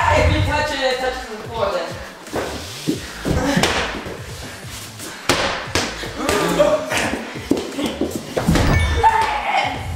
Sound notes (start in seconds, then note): 3.4 ball bouncing; 6.4 gasp